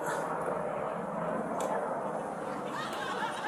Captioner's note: whispering